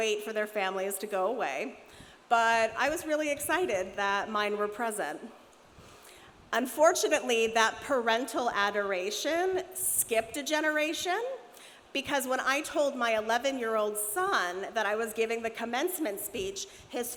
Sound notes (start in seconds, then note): none